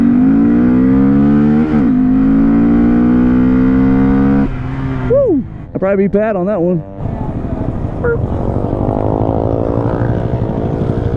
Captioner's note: revs motor